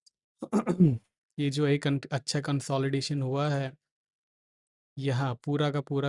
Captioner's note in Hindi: गला साफ़ करने की आवाज़